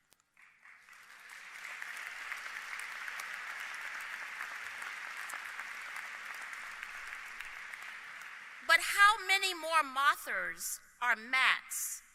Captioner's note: applause